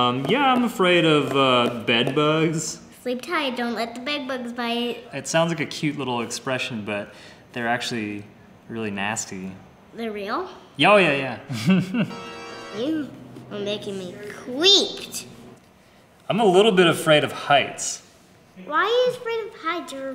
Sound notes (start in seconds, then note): 11.5 laughs; 11.9 creepy organ music